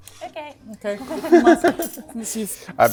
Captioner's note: everyone laughs